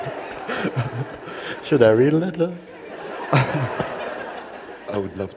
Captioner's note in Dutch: gelach